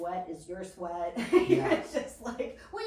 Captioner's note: laughs